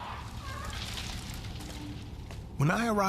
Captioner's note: elephant grunts